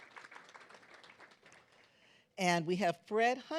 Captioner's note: claps